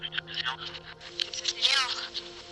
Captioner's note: static buzzes; camera flash snaps; phone beeps